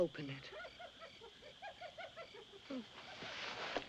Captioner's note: hyena Laughing